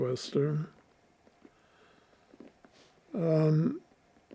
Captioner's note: pauses 6 seconds